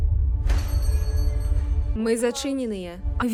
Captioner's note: bell over shop door rings